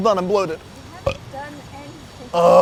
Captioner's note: burps; groans